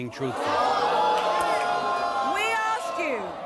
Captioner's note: audience groans